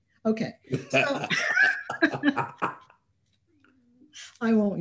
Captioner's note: laughter